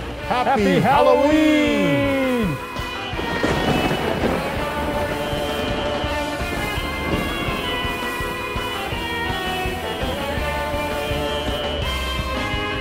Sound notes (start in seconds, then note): 3.0 lightning crackling; 3.0 spooky music